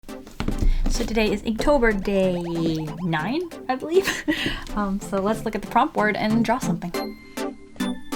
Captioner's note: laughs